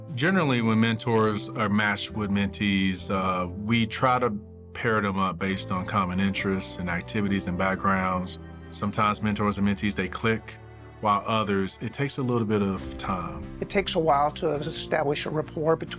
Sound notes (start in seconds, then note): none